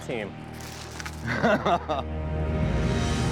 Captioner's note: laughs